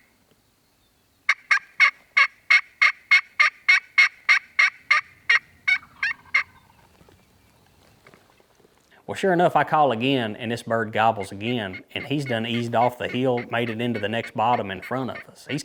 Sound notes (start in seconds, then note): 6.0 turkey gobbling